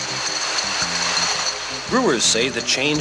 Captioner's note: bottles rattle